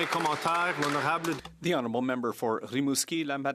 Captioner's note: some Applause